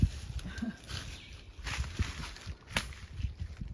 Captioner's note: chuckles